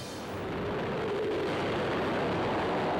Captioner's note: wind howling